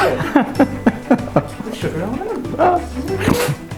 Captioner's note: laughs